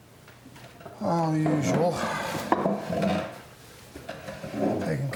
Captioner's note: sighs loudly